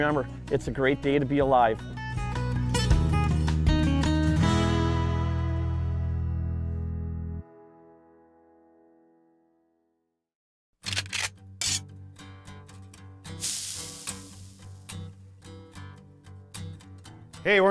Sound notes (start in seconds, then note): 10.8 gun cocking; 13.4 grill sizzling